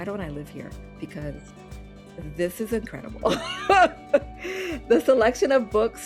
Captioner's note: laughing